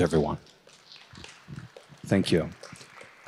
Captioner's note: applause